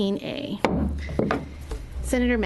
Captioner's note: gavel bang